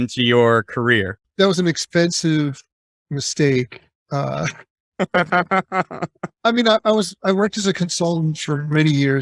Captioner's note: laughing